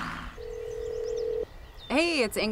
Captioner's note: phone ringing